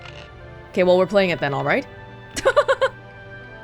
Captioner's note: chuckles